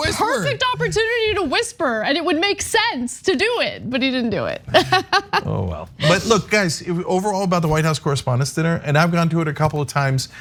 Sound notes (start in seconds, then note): 4.7 laugh